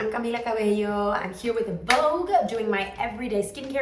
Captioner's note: hands clap together